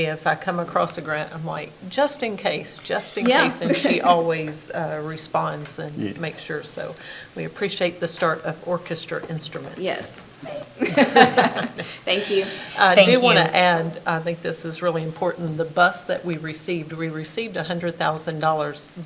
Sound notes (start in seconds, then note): 10.8 both laugh